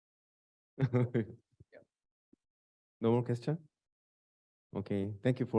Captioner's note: laughs